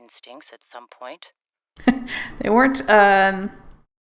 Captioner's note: laughs